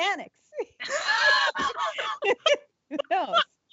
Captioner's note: laughing